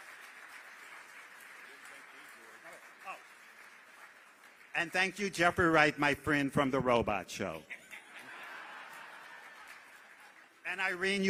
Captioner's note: applause